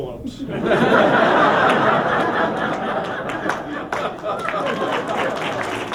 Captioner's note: laughter